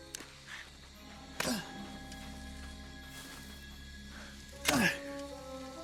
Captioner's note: boy grunting